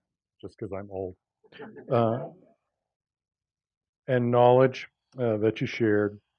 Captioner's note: laugh